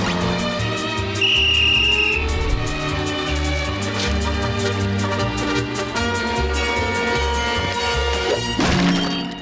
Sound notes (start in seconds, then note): 1.1 whistling; 8.2 banging